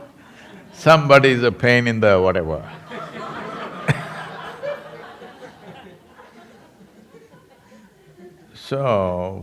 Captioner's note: laughter; laughter